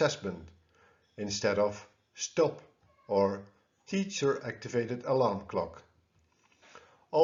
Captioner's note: teacher activated alarm clock